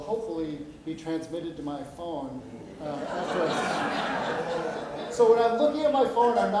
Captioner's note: audience laughs